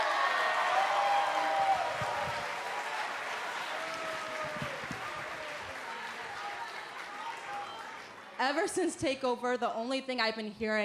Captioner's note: crowd cheering